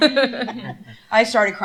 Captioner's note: laughter